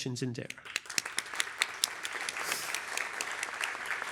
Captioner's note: applause